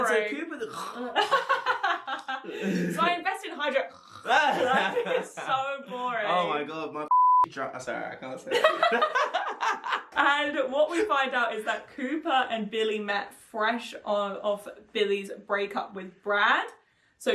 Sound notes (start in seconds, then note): 0.6 snoring; 3.8 snoring; 7.1 beep; 8.4 laughing